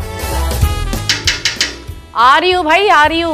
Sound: knocking on the door

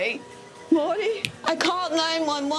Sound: snaps fingers

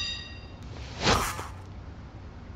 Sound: breath

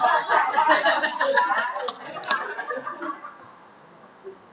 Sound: laughter

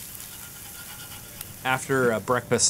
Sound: sausage sizzling deliciously; tool scraping gently

